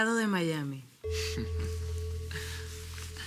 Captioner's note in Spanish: Bruno ríe